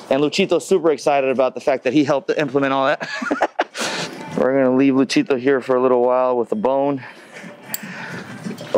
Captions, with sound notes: and Luchito's super excited about the fact that he helped to implement all that. (laughs) We're gonna leave Luchito here for a little while with the bone